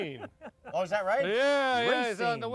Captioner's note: laughing